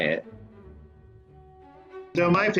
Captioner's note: well placed silence